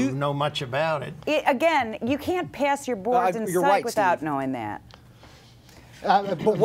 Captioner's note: female Speaking